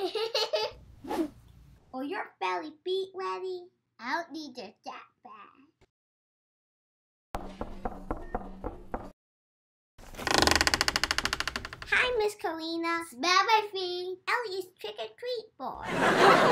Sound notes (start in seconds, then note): 0.1 Elli laughs; 7.4 girls knock; 10.0 door creaks; 15.8 audience laughs